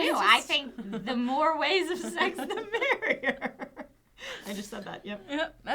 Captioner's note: laughing